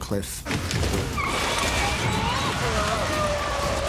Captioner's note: tires screeching; grunting